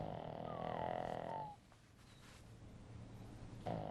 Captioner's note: dog whimpering